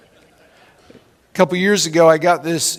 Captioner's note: laughing